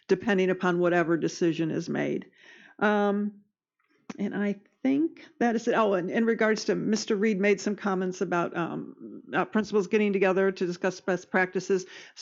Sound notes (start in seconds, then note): none